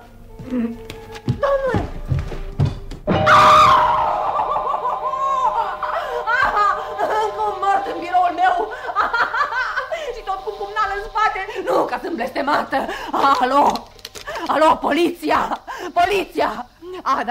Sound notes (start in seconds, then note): 3.2 Alice screams in horror